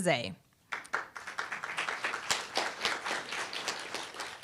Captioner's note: applause